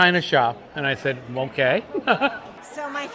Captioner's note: laughing